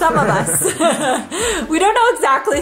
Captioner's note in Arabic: كلاهما يضحك